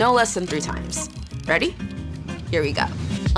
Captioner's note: clock ticking; ticking